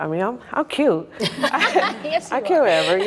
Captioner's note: participants laughing